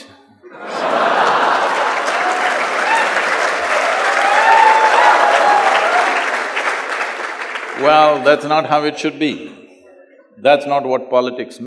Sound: cheers/Laughter/Applause

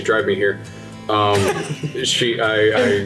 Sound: all chuckling lightly

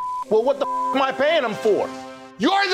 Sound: beeping

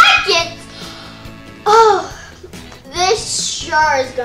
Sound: sighs

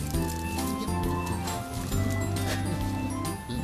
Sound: wind Blowing

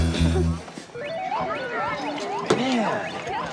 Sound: video game noises

